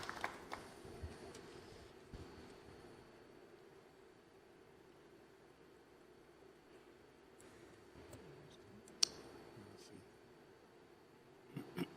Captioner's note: applause